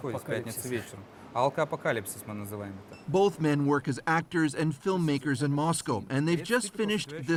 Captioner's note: speaking russian